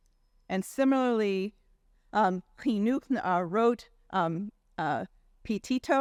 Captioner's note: faintly speaking